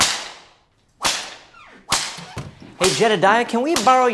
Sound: cracking

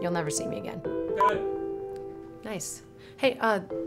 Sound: man yells offscreen

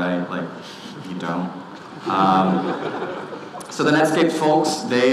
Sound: audience laughing

